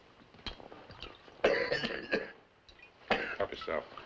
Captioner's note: coughs